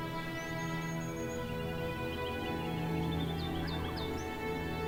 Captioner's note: birds chirping